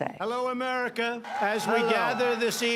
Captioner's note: cheering and applause